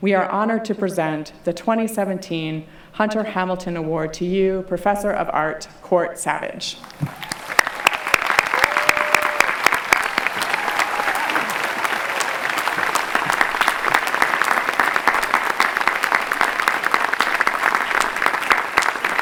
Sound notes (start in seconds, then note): 11.2 clapping